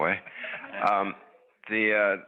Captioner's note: audience chuckles